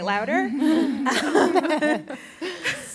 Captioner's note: laughter